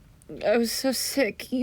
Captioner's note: none